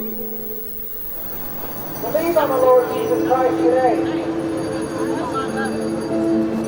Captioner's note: preacher delivering sermon in background